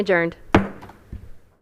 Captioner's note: gavel hitting dais